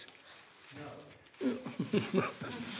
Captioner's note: laughs